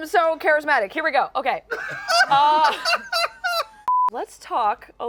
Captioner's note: laughter